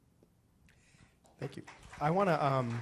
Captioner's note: audience applauding